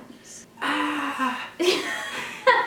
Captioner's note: yells softly; laughing